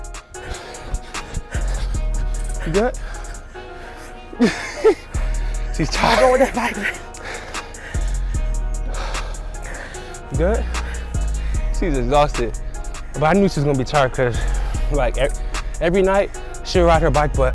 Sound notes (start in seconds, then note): 0.6 breathing heavily